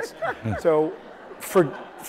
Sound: audience laughs

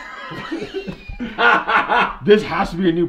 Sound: laughter

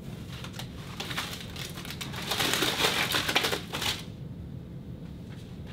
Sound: sliding and clattering

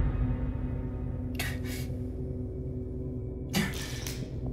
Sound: filmer exhales

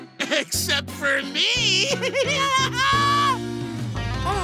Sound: laughing

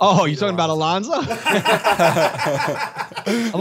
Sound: laughter

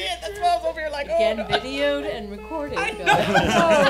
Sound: laughing

